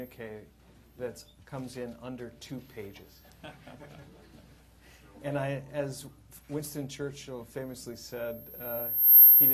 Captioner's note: laughter